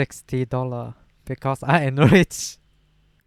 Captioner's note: burst laughing